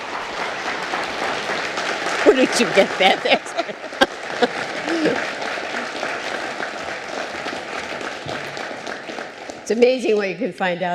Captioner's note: applause